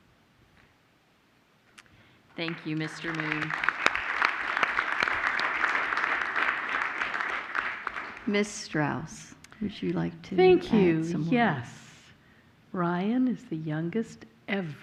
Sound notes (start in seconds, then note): 5.9 applause